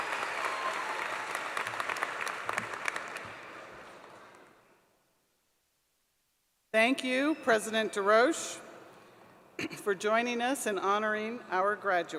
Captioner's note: applause